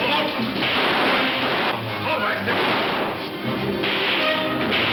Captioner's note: guns firing